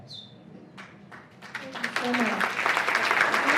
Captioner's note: applause